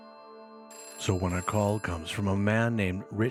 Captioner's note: phone rings